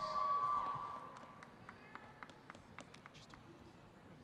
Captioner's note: audience cheering